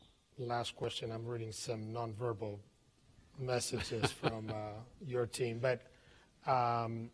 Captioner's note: laughter